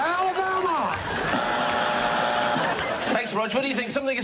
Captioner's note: buzzer